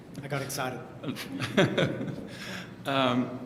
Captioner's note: laugh